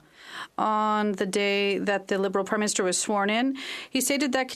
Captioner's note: speaking French